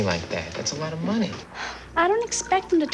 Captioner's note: sighs